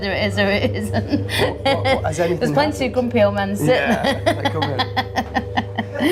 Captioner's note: laughing